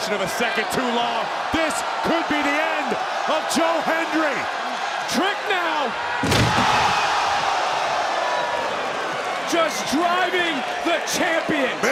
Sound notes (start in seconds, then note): 6.2 table crashes; 7.0 crowd shout